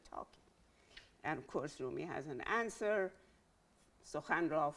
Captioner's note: speaking in Farsi